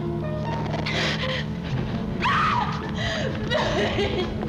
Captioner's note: she screams